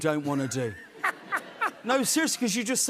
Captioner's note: laughter